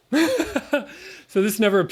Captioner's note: chuckle